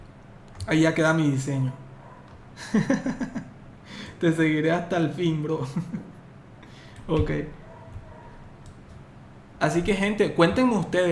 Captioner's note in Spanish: risas